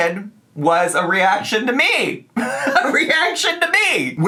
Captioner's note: laughs